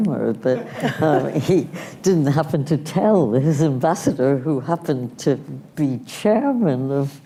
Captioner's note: laughter